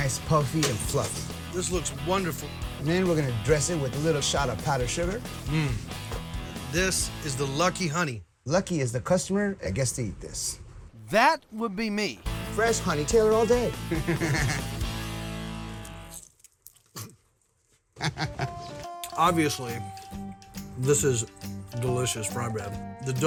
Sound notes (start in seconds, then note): 13.9 both chuckle; 15.7 crunching; 17.9 chuckle